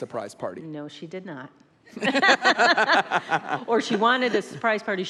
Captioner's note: laughs